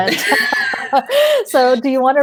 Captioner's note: laughing